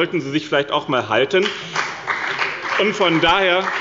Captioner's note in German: Beifall bei dem BÜNDNIS 90/DIE GRÜNEN und der CDU